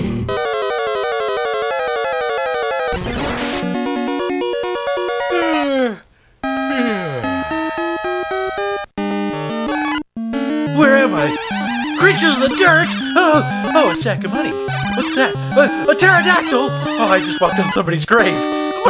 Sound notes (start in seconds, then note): 0.1 video game noises; 7.9 yawning